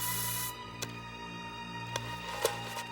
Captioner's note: spraying